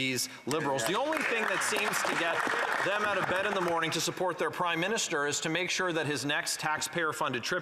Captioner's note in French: voix de l'interprète